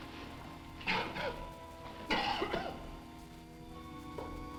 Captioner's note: Quent coughing